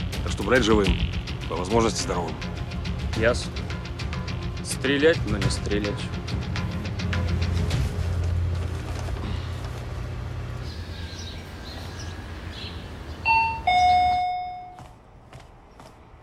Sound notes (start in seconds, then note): 13.2 doorbell ringing